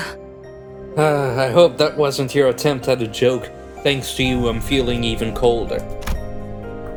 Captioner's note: sigh